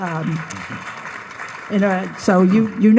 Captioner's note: audience applauds